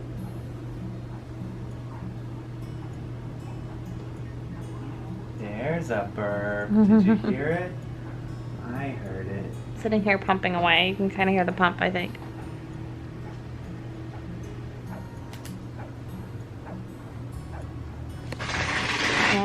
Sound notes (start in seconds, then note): 0.1 gentle music; 6.7 laughs